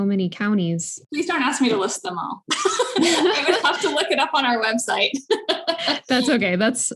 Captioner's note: laughter